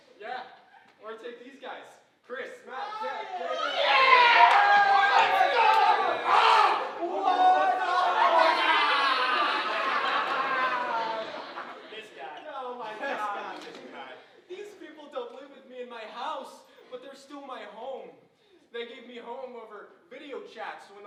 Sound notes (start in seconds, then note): 0.0 audience chuckling; 4.3 friends cheering